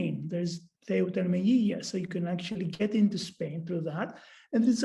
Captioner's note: non-english speech